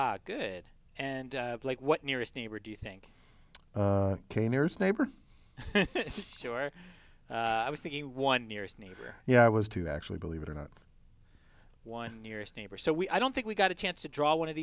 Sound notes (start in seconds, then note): 5.6 laugh